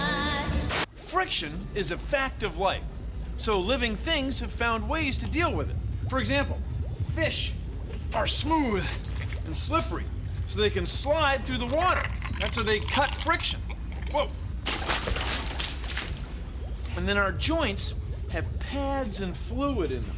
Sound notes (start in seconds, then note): 14.8 splash